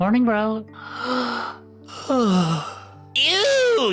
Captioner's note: yawn